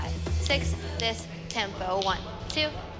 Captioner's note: sing-songy